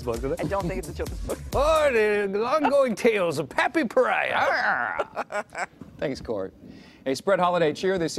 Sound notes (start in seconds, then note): 4.7 laughter